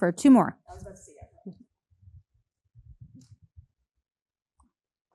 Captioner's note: faintly speaking